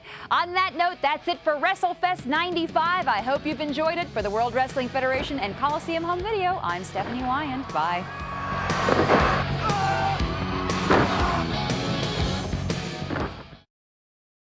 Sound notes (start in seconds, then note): 8.6 fireworks booming; 9.9 man yells; 10.0 fireworks booming